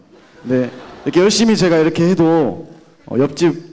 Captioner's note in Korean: 청중 웃음